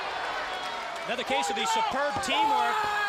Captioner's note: crowd cheering